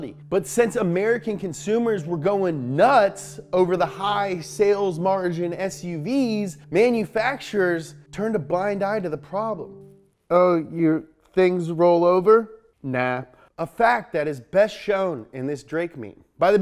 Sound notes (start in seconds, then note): none